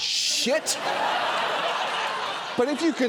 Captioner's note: audience laughs